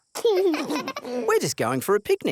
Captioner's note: both laugh